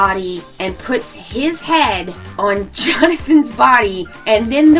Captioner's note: laughs